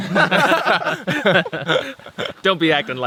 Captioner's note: laughing